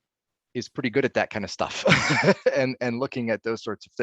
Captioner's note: laughing